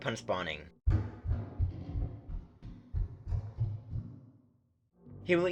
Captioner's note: fast-paced, metallic footsteps